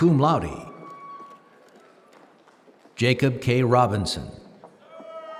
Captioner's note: applause